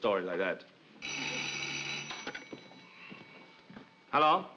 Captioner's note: phone rings